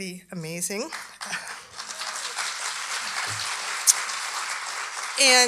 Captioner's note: audience applauding